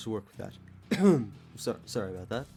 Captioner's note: fake cough